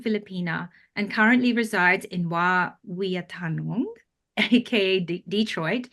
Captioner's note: speaks in foreign language